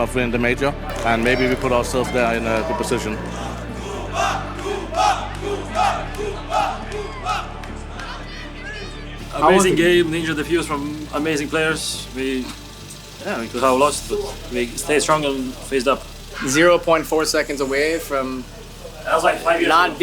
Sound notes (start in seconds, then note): 3.2 crowd